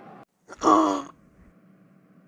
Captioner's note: zombie grunt